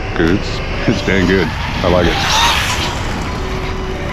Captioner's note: electric motor screaming